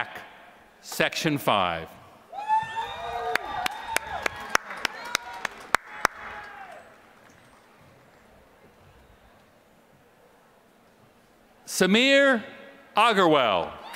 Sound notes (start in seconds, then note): 3.2 applause